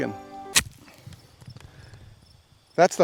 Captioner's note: crunching